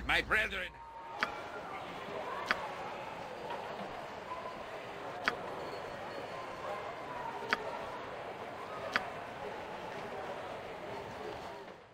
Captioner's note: echoing, ambient market noises